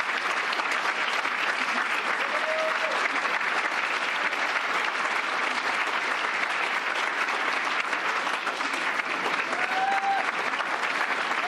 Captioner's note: cheers and applause